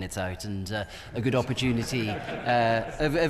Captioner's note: members laugh